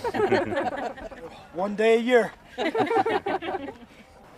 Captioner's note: laughter